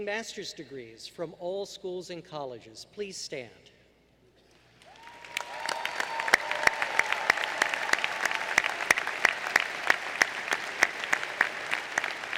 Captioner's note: applause